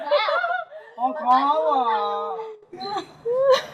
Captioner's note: laughing; sarcasm; laughing